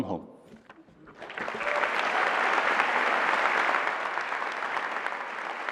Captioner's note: applause